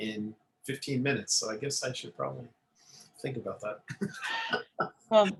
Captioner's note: laughter